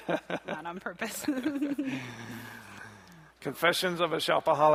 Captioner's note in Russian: смех; смех